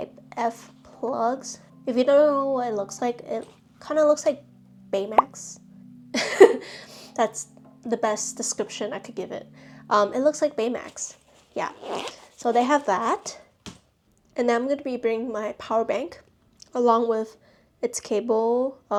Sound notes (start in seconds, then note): 6.2 laughing